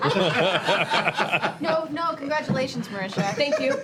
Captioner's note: laughter